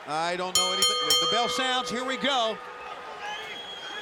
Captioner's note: bell rings